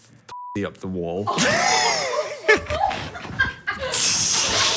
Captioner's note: beep; all laugh